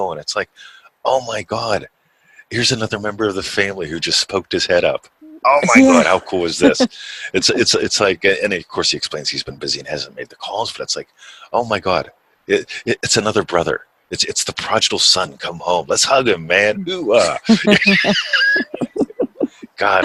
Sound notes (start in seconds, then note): 5.4 chuckles; 17.1 both laughing